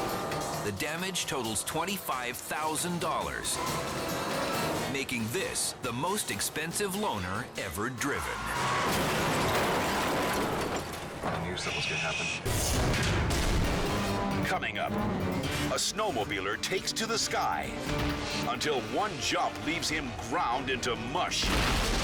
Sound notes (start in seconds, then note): 8.4 dramatic music; 8.4 tires screeching